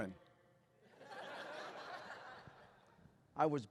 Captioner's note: laughter